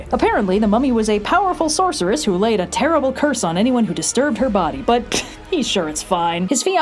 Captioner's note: pshht